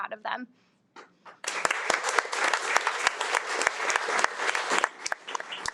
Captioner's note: audience applauding